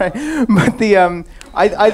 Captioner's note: laughs